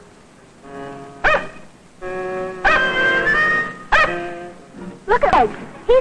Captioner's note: dog barks